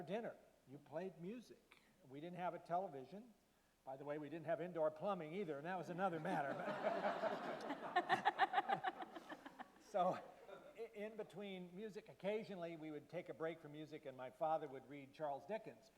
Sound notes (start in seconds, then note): 6.3 laughter from panel members and audience; 6.6 laughs